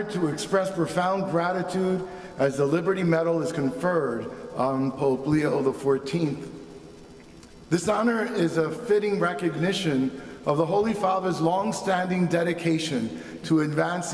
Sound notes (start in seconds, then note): none